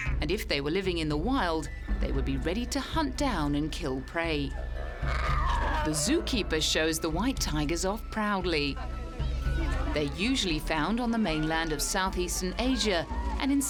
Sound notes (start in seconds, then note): 4.5 cub growls